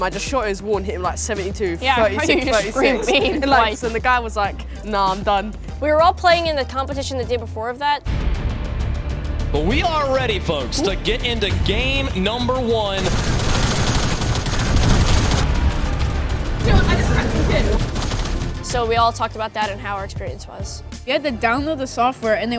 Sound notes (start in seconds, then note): 13.1 guns firing